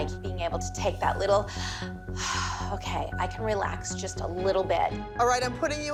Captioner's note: deep breath